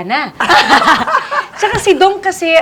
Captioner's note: laughs